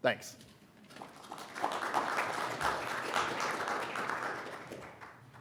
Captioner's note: audience applauds